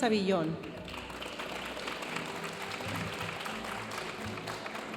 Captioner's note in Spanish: aplausos de la audiencia